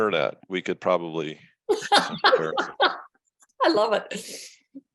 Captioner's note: laughter